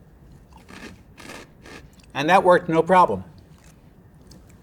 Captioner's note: food crunching